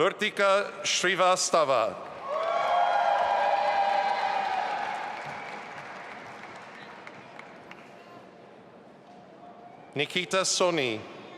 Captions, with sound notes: Vertika Srivastava. (audience applauding and cheering) Nikita Soni.